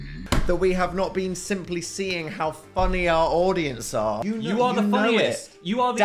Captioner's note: none